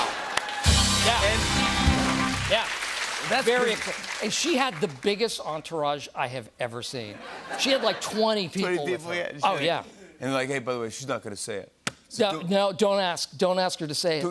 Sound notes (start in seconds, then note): 7.2 laughter